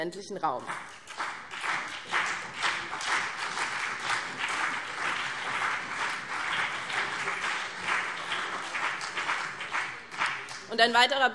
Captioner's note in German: Beifall BÜNDNIS 90/DIE GRÜNEN und CDU